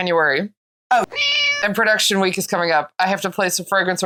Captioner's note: meow